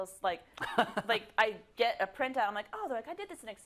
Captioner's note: laugh